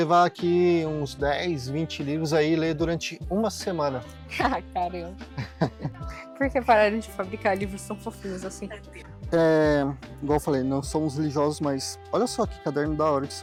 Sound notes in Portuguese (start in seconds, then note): 5.3 risadas